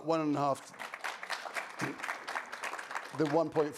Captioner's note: audience applauding